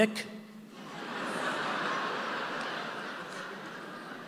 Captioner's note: audience laughing